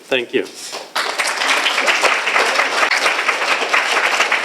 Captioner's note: applause